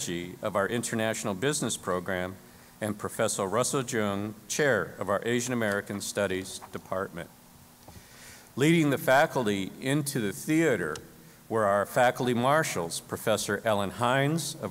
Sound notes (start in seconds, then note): none